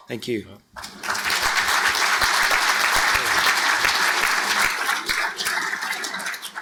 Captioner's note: audience clapping